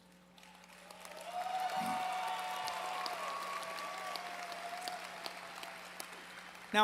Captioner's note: applause